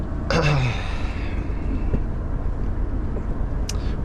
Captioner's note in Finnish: huokaus